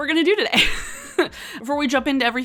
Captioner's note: laughs